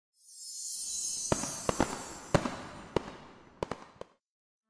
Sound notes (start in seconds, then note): 1.2 fireworks shooting